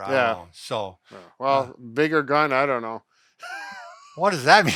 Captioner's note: laughs